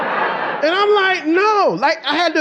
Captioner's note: audience laughing